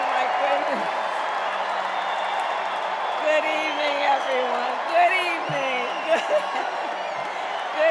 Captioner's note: cheers and applause